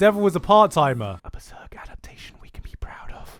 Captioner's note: whisper